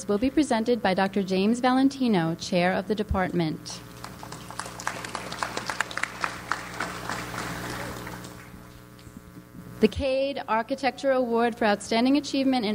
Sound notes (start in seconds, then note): 3.9 audience applauds